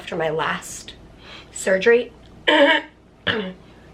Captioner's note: clears throat